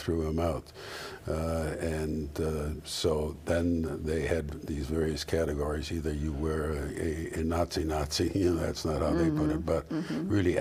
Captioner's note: sound of agreement